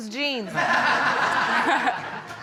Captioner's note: audience laughing